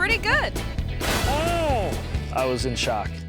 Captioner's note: slab bangs